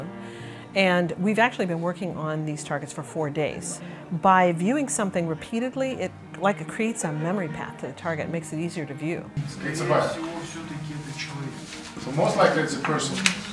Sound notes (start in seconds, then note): 9.3 speaking russian